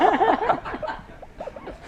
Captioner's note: laughter